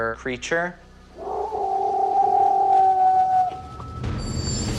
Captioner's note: howling